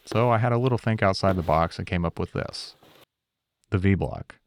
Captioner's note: none